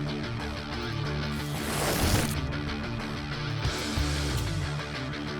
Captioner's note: intense rock music; air whooshing